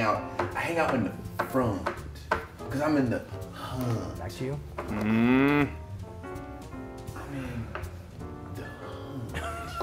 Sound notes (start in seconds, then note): 1.4 laugh